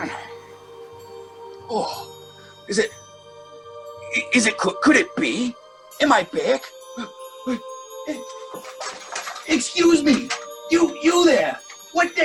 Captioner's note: opens up window